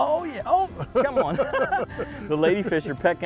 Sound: laughter

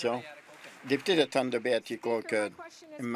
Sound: applause

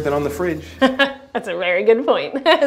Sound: chuckles

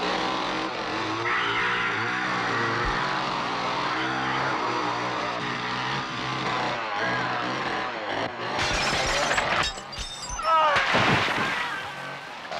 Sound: screaming

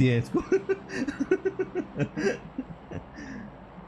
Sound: chuckles

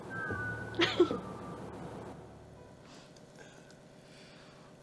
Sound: Lillian laughs

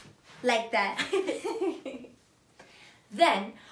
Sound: both laugh

